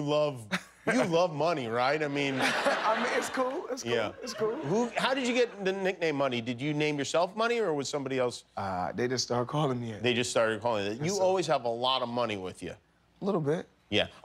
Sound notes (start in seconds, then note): 4.2 laughter